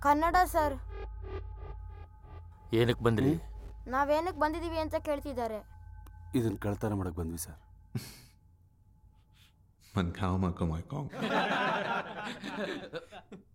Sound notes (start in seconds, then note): 9.9 Malay Language; 11.2 laughs